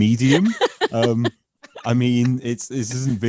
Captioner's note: laughing